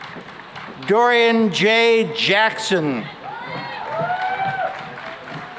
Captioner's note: cheering and applause